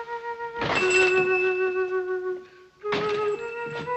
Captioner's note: door bells chiming